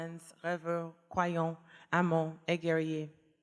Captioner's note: speaking french